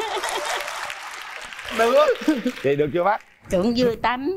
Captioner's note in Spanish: Aplaudir